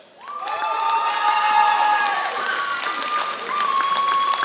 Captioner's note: applause